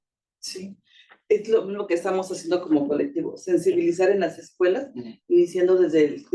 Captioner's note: speaking Spanish